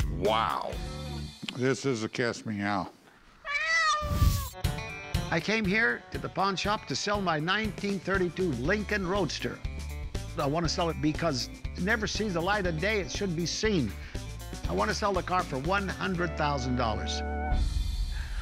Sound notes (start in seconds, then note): 3.4 cat meowing